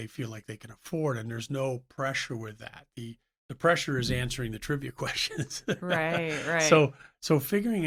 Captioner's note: laughs